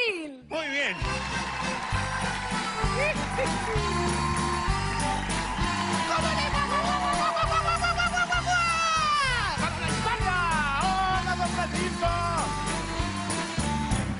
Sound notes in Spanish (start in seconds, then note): 5.8 aplausos